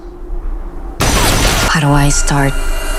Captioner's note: gun firing